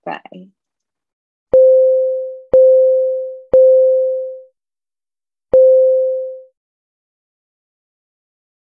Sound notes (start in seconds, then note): 1.5 beeping chime